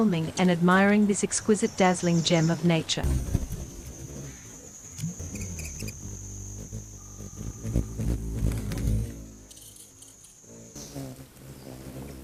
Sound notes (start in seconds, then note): 3.0 buzzing; 3.2 birds chirping